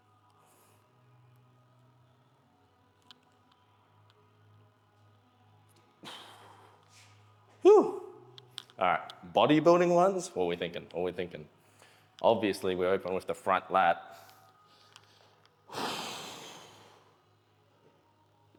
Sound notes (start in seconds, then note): 15.7 sighing